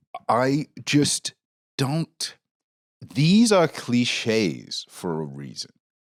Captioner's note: none